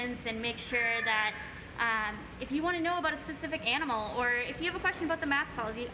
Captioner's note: bird squawk